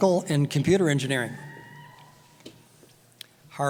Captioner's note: cheering